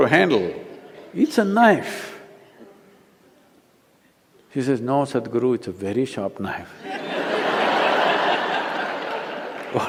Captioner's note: laughter